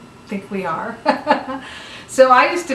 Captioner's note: chuckles